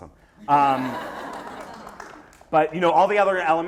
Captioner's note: laughter